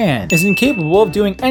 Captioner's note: ding